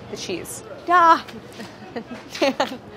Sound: chuckles

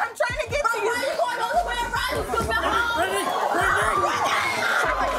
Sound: screaming and yelling

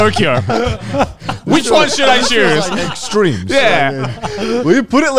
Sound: all laughing

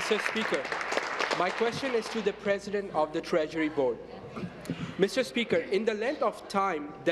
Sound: applause

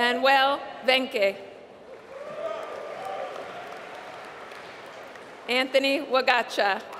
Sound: applause

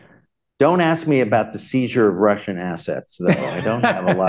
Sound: laughter

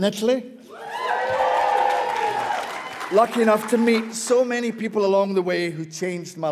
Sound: cheers; audience cheers

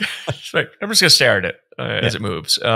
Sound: both chuckling

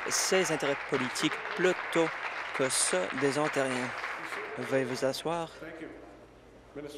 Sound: applause

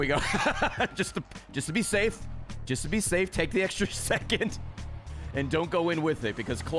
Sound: laughs

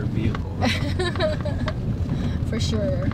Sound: girlfriend laughing

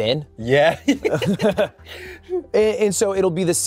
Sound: laughs

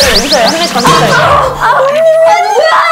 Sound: collision

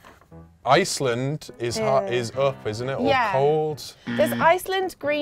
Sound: alarm

